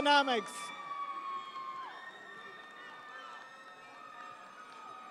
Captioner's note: audience cheering